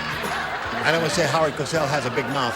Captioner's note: laughter